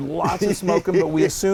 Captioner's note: laugh